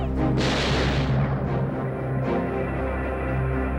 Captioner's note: gunshot fires; dramatic music